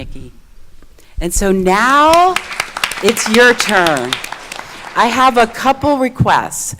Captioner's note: audience clapping